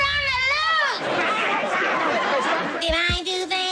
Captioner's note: laughter